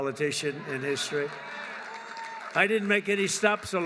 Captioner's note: applause